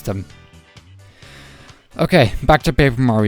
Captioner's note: inhale